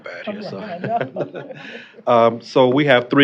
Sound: chuckling

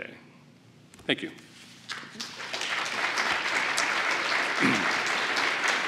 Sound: applause

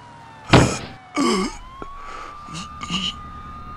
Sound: gasps final breaths and dies; thud

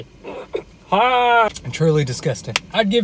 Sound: gagging

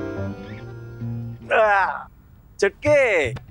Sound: yawns

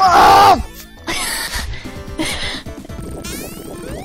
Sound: laughs

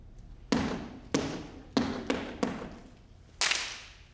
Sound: feet tap

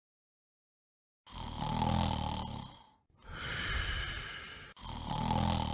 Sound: Brian Snoring; snoring Continues

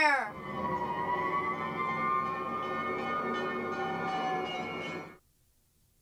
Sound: fire engine sounds

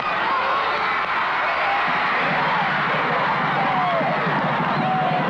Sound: cheering and shouting

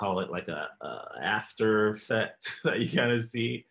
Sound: laughs

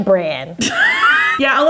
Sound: laughing

